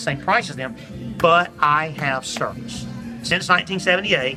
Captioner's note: clapping